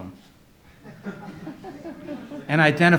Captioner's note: audience laughs